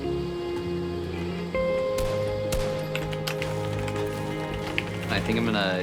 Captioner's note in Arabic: ضغط على لوحة المفاتيح